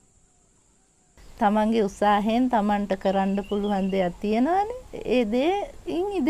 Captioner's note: speaking in foreign language